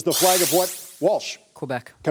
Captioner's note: buzzer sounding